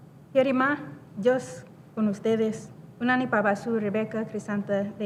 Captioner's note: speaking foreign language